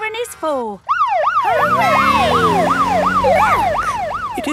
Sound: siren

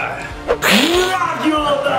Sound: Mummy growling; Dracula hissing

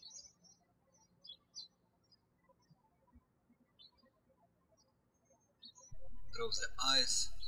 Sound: birds chirping

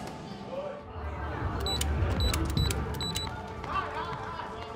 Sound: crowd; keypad beeps

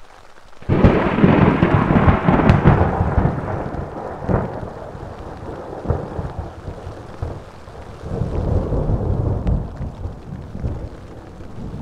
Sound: loud thunder and rumbling

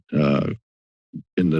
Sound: silence

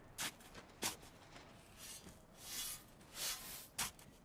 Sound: dirt shifting

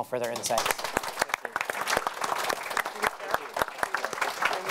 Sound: audience clapping

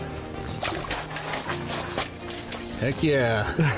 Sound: fishing reel spins; water splashes

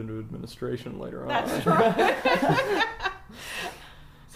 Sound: laughs

